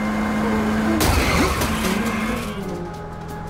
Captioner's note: car crashing